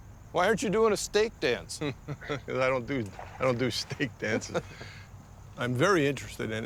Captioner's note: chuckling